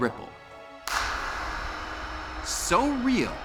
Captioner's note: claps